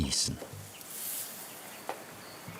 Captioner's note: hiss